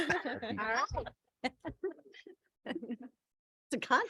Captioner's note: people laughing